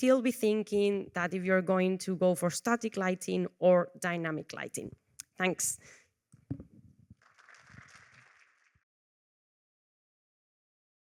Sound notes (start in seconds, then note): 5.5 applause